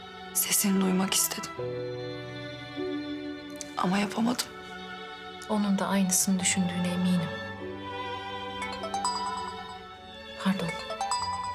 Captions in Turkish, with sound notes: Sesini duymak istedim. Ama yapamadım. Onunda aynısını düşündüğüne eminim. [ Telefon çalıyor ] Pardon...